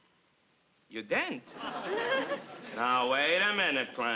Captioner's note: audience laughs